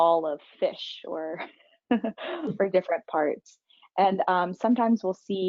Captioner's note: laughing